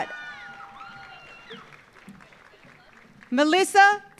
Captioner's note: audience cheering; audience applauding